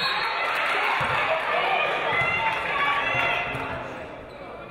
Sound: referee blows whistle

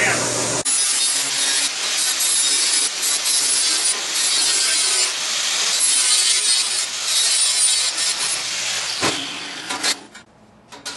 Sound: grinding

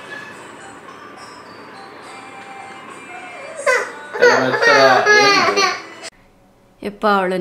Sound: is crying

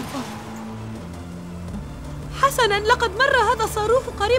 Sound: none

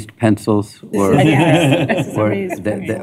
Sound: laughter

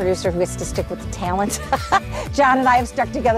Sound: laughs

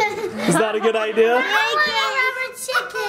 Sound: laughs; mom laughs

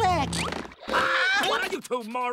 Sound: screaming

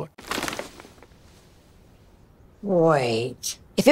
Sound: bag rustles

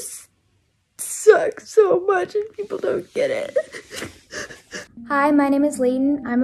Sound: sobs

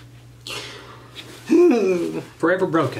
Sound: groans

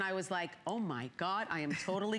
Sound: laughter

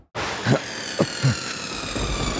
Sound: gasps

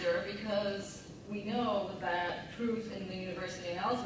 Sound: none

